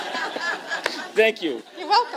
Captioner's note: laughter